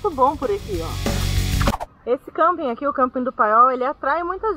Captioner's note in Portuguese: som de transição